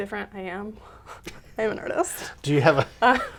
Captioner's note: laughs